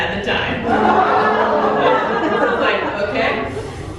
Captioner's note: audience "Oooh"s